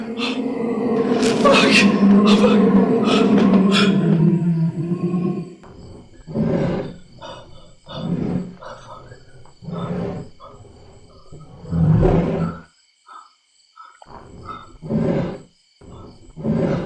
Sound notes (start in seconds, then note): 1.8 heavy breathing and grunting; 10.8 heavy breathing and grunting